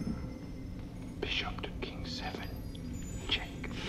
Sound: whispering

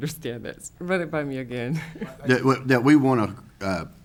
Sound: chuckles

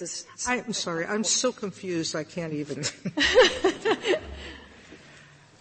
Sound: laughter

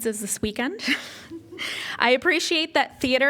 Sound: laughter

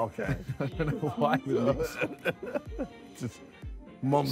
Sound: both laughing

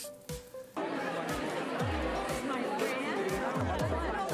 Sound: chatter

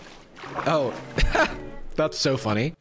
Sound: laughs

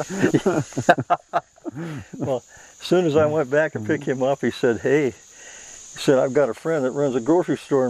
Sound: laughs

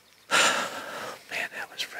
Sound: man sighs

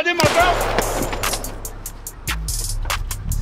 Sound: loud gun shot

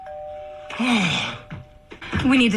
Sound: sigh

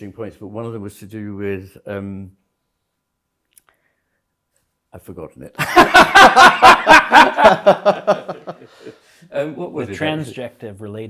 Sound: laughter

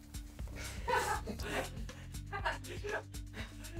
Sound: laughs

